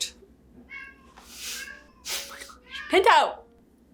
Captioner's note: Pinto yowling